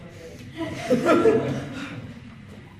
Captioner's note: sigh